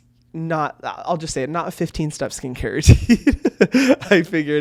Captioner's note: laughs